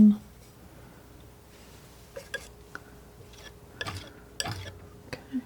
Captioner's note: scraping